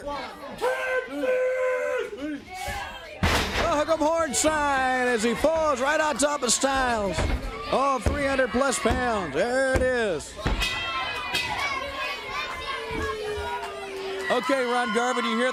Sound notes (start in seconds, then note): 11.4 bell ringing; 12.5 crowd cheering